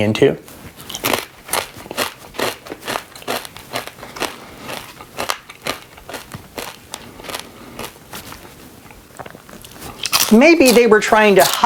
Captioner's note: crunching